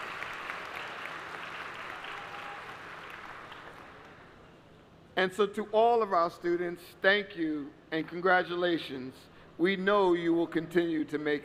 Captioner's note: applause